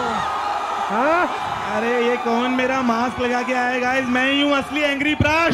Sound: non-english speech

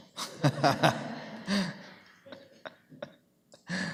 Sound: laughter

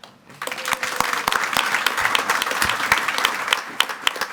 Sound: audience clapping

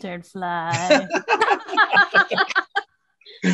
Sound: all laugh

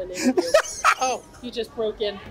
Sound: laughs

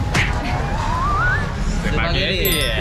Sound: beep Beep

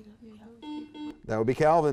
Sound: buzzer beeping

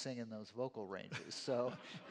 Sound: laughter

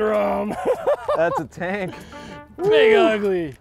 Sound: laughing

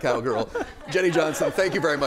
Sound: laughter

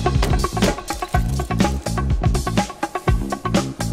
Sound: hammer banging; caramel rattling; upbeat music continues

